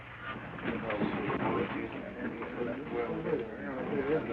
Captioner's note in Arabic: همهمة الحشد